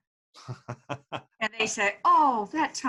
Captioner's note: laughing